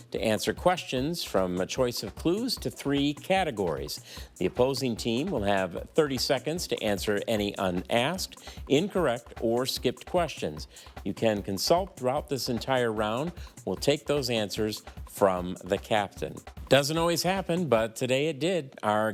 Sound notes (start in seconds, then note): none